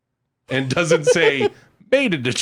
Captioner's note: laughs